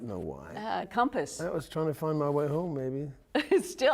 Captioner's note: laughter